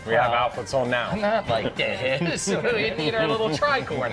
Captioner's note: laughs